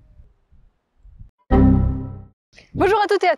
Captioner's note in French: Bruit d'erreur Windows